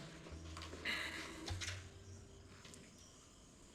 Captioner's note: sighs